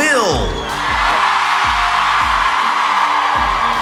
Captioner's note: cheer